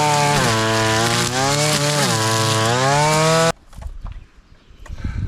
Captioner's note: engine noise